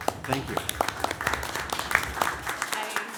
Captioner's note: applause